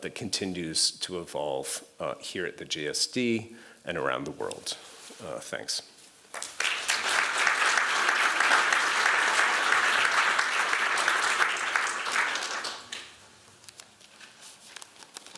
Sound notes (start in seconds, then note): 6.3 applause